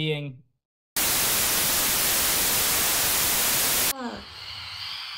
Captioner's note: static